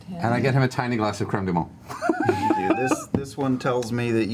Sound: laughs

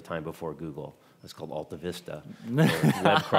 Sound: laughing

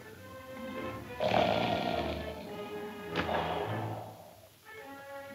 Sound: loud snoring

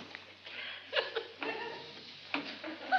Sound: sniffing

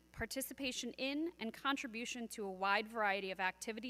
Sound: none

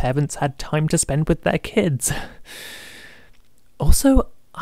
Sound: nervous laughing

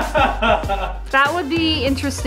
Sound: laughing

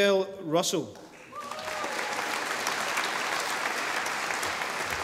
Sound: audience applauding

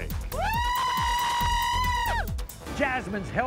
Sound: cheering

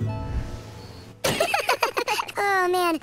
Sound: laughing

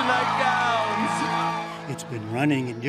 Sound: cheering and applause

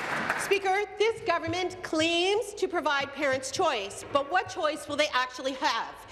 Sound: applause

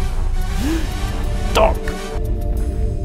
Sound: gasps

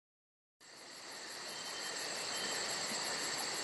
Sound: cicadas chirping

